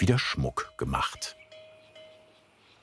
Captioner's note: bell ringing